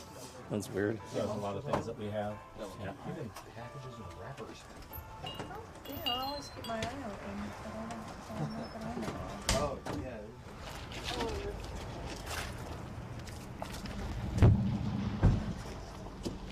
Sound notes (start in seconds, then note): none